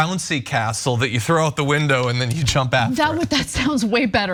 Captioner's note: laugh